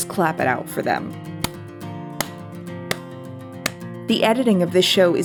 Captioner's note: clapping